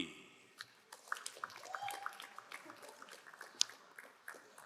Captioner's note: crowd applauding